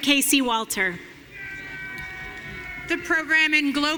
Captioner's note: audience cheering